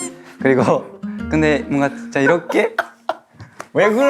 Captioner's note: laughs